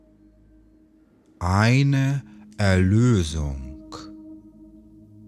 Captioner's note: german